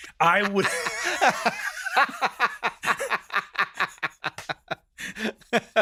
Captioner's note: Hank and John laughing